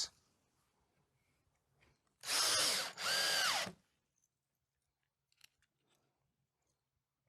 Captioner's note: drill whirring